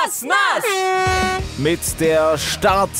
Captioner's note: Startsignal